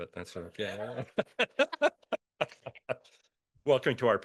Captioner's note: laughs